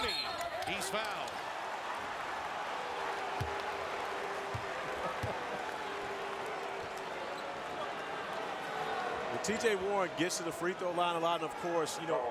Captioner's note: applause